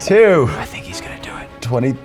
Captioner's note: whispers